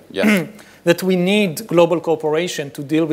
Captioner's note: clears throat